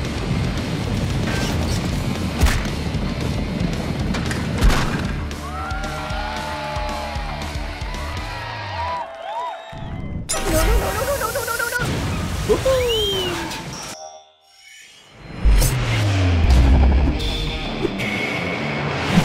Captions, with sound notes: (crash) (cheering) (train whistle) - No, no, no, no, no. (explosion) - Woo-hoo! (rock music)